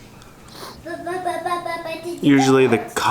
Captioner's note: babbling